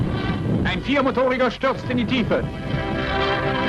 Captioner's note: plane